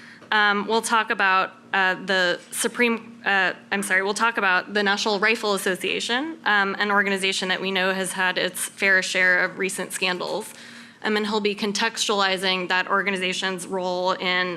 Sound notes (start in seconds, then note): none